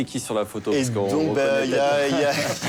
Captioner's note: hubbub; laughter